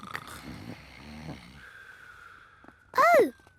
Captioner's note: snoring